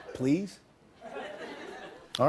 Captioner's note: laughter; light laughter